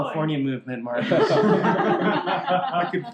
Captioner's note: laughter